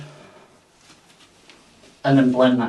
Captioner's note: person breathing